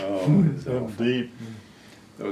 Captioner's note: laughs